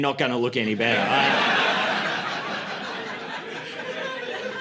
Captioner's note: laughter